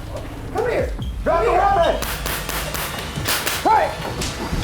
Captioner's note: fires gun